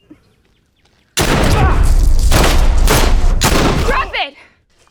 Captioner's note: guns firing